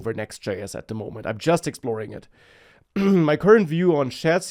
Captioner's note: clears throat